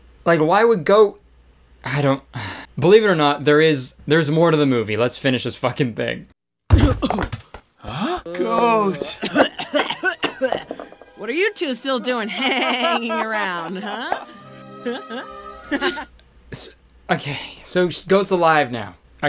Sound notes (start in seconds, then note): 6.8 goat gasping; 8.8 nails clanging; 8.9 goat coughing; 13.7 laughing